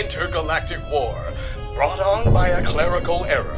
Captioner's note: continuous explosions